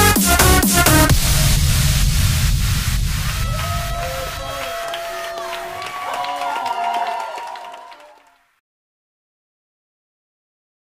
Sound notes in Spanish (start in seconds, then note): 3.2 El Publico Aplaudiendo